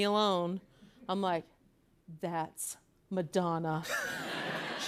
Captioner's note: laughter